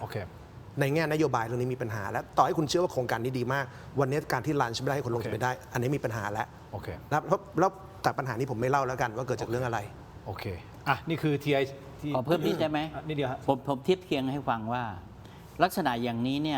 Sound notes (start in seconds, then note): 12.7 clears throat